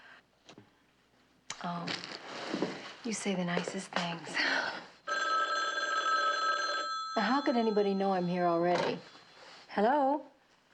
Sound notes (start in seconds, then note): 5.0 phone ringing